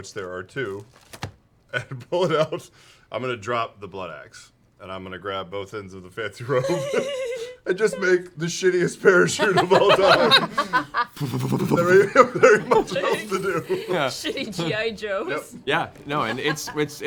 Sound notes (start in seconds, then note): 10.8 air puffs